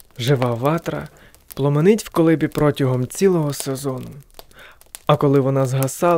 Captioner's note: fire